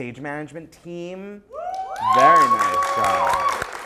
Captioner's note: applause